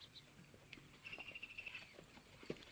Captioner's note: birds chirping